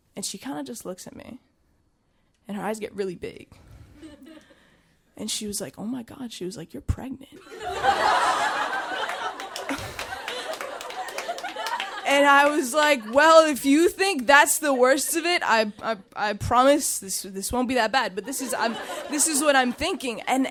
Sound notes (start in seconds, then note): 7.5 audience laughing; 8.5 audience applauding